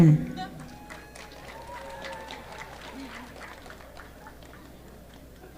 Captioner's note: audience clapping